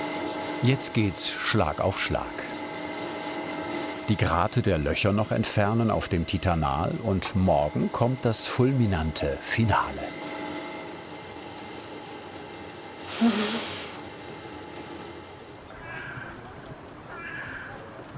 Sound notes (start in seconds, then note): 15.4 bird calls